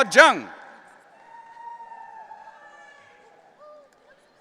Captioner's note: audience cheering